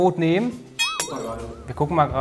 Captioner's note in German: Boing, Klirren